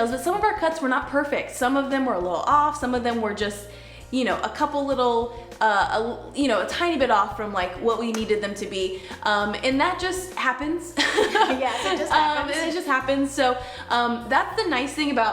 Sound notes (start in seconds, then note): 11.0 laughs